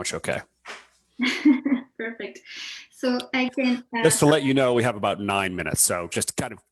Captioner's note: chuckles